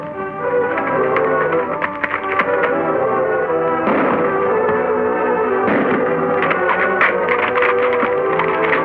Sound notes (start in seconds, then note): 0.6 hooves clopping; 3.6 gunshots firing